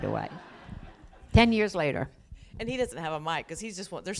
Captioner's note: laughter